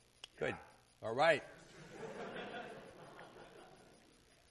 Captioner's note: laughter